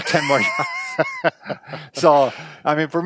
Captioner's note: laughing